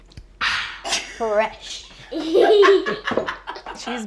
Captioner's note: laughter